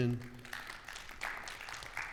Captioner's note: audience clapping